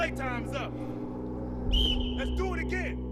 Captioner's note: whistle blows